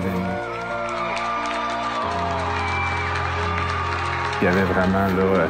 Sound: crowd cheering

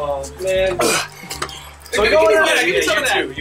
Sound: heaving

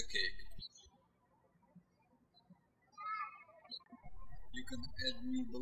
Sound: birds chirping

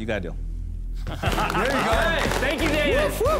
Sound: laughter

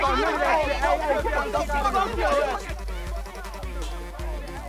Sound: yelling

